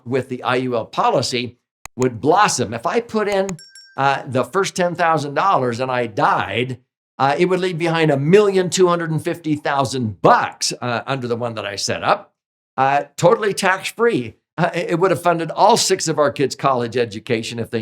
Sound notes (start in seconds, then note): 3.5 bell chimes